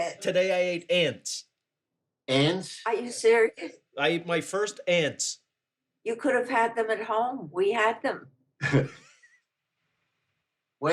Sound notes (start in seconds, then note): 8.6 chuckles